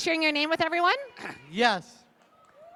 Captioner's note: applause